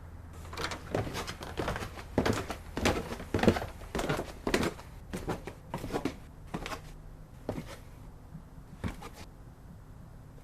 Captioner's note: footsteps